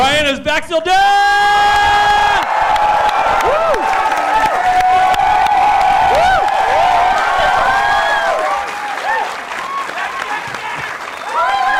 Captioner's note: cheering